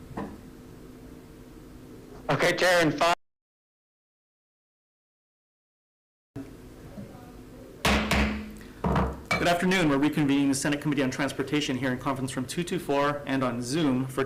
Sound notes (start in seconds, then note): 7.9 gavel pounds